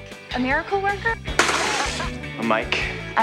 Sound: spitting

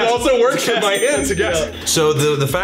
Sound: laughs

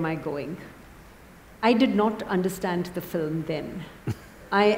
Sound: Sadhguru laughs

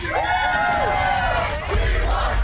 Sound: customers cheering

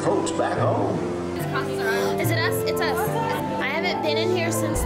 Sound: gasps

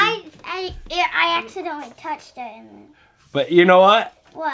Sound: voiceover

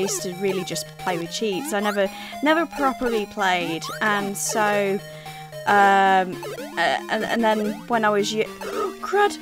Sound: gasps

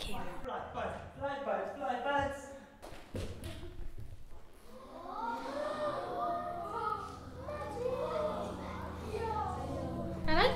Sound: audio from the show and gasps from audience

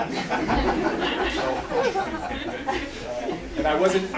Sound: laughter

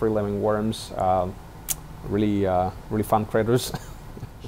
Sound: chuckles

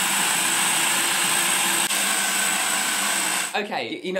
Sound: mechanical whirring

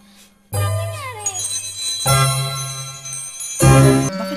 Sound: bell ringing

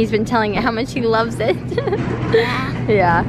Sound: chuckles

